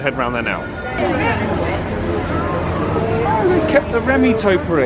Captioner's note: indistinct chatters